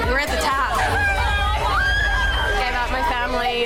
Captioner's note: women cheering